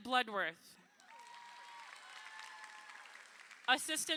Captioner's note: crowd applauding